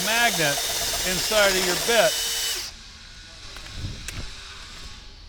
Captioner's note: drill buzzes